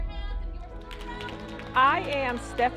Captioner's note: group clapping